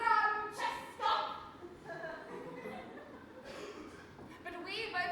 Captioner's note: audience laughs